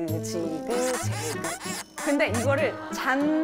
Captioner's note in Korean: 삐걱